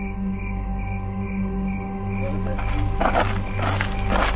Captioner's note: crickets